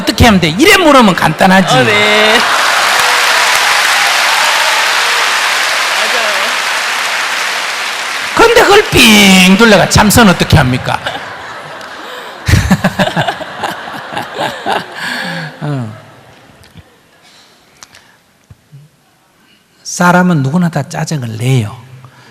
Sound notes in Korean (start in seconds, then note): 4.0 웃음, 박수; 13.6 청중 웃음